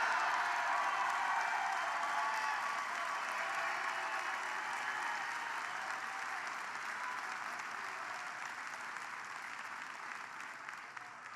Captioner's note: applause